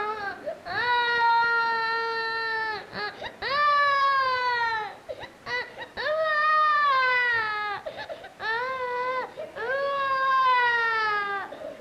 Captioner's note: crying